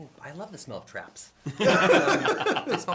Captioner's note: laughter